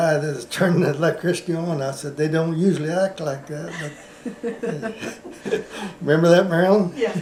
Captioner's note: laughter